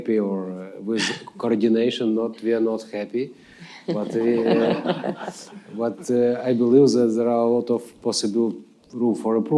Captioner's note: laughter